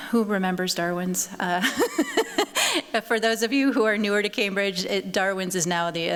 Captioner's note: chuckles